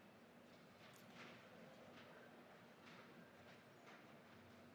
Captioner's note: none